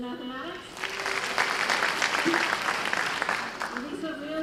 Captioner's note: applause